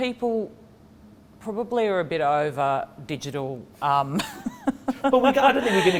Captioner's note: laughs